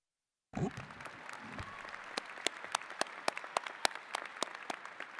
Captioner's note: attendees clapping